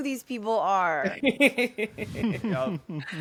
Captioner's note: laugh